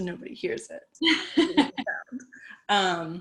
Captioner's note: laughter